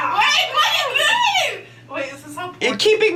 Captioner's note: yells